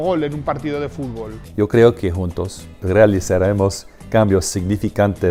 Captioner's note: speaking Spanish